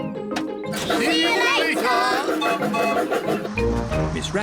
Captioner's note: laughs; toots whistle